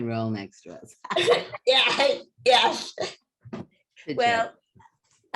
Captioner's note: laughter